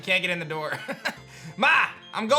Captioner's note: laughs